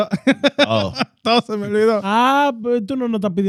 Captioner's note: laughing; speaking In Foreign Language